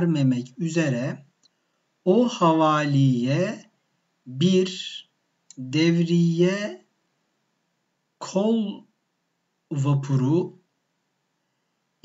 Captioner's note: Italian